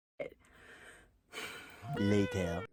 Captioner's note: sighs